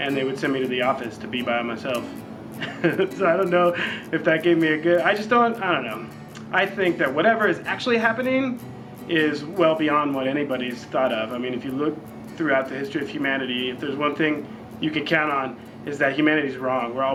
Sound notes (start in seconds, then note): 2.5 laughs